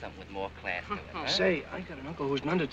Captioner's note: scoffing